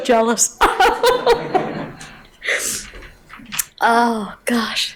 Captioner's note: laughing